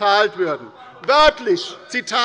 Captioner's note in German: Zurufe von der CDU